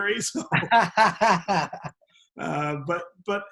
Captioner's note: both laugh